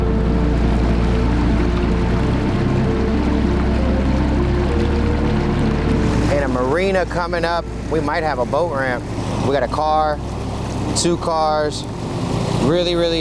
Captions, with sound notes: (boat engine humming) (water splashing) And a marina coming up. We might have a boat ramp. We got a car, two cars. Really, really old.